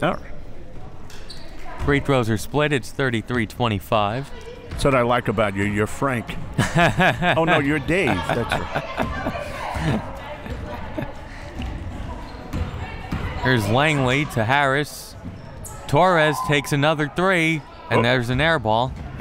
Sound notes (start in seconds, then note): 8.9 laughs